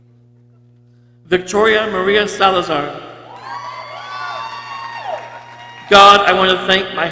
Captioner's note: people cheering